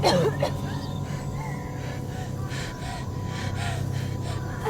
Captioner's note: distorted piano; Ura coughs; fast breathing